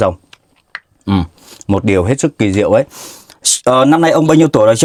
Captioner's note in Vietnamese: khịt mũi